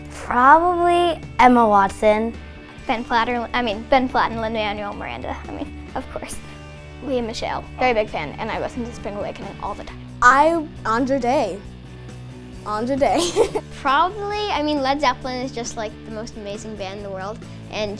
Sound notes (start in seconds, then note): 13.1 laughs